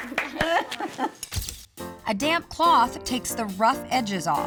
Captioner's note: applause